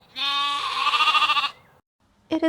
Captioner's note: sheep noises